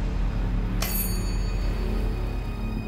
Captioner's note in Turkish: Zil sesi